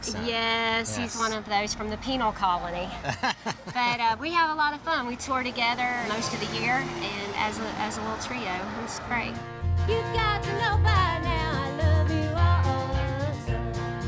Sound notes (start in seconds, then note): 3.0 laughter